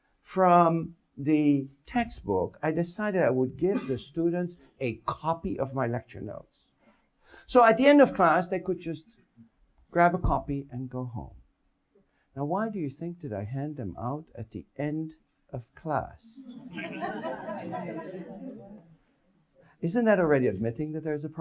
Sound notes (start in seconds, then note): 16.4 audience laughs